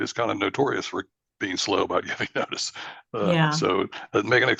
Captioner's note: laughs